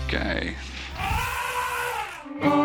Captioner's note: elephant trumpets